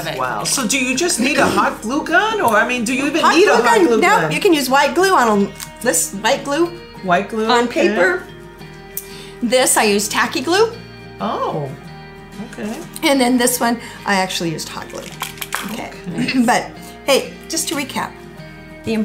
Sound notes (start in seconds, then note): 14.8 plastic eyes rattling; 16.6 clears throat